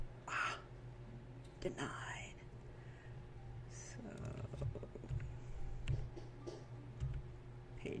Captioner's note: gasp